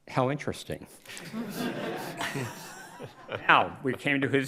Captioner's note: crowd laughs